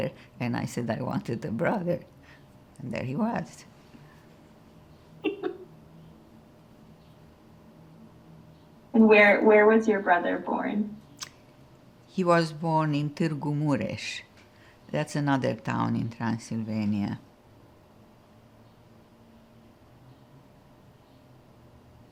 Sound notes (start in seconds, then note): 5.2 laughing